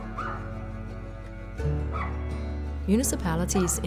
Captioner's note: dog barking